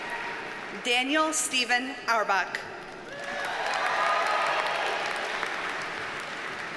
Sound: audience cheers and applauds

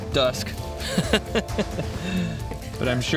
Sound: laughs

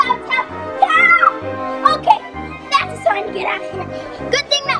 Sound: screams

